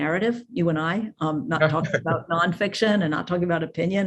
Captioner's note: chuckles